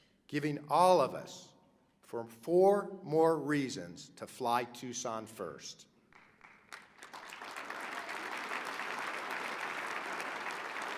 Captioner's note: applause